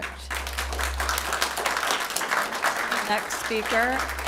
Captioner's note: applause